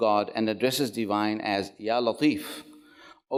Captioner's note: speaks Arabic